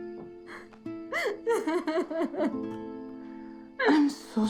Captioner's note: crying